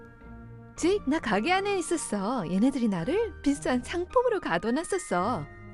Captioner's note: speaking foreign language